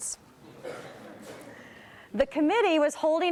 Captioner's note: crowd laughs